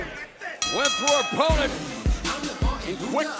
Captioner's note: bell ringing